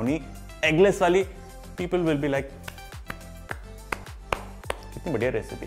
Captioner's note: clapping hands